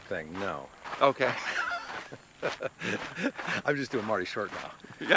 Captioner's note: both laugh